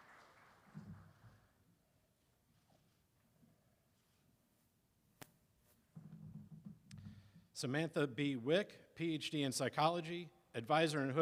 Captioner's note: applause